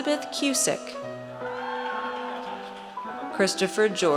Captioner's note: audience cheers